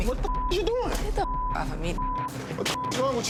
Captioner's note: beep